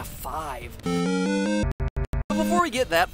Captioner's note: SFX: Glitching Zelda found item sound